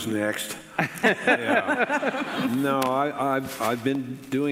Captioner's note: panelists laughing